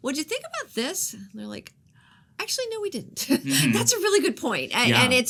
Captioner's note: chuckles